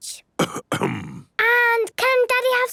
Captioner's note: coughs